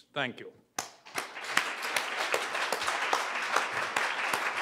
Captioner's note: applause